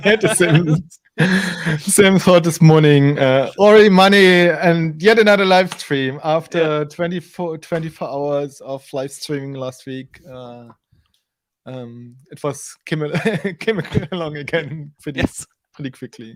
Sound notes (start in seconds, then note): 13.2 laughs